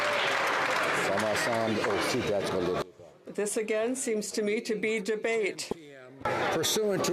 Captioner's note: some Applause